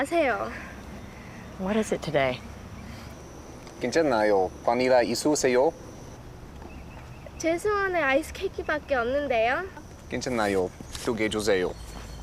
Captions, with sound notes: - What is it today? (both speaking Korean)